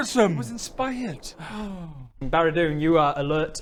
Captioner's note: sigh